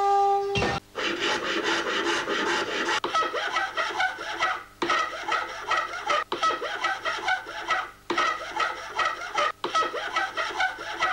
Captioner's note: laughs